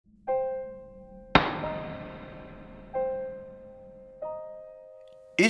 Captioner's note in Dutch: hamerslag